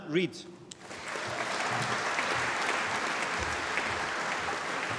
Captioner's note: applause